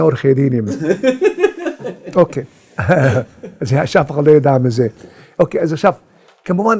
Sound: laughing

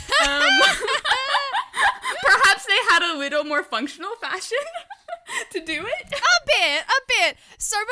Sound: hosts laugh

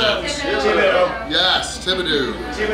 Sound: crowd

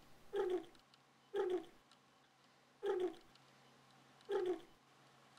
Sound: gentles snoring until the end

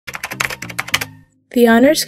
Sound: typing

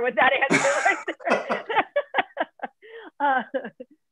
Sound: laughter

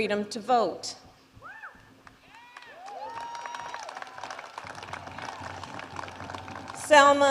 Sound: applause

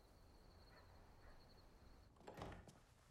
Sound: dog barking nearby

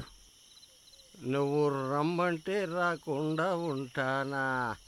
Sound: The 'fox' humming

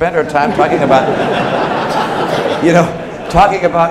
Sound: laughter

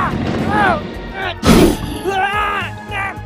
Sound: T-Rex Snorts; muffled Struggles Sounds

